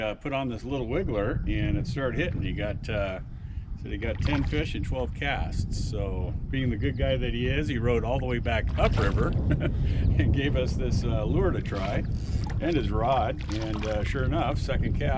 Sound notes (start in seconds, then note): 8.8 chuckling